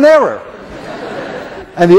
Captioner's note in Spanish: clase se ríe